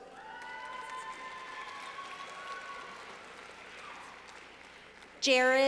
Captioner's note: clapping